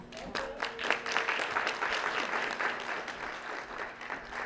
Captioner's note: applause